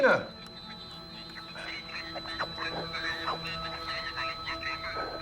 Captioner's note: comm device garbling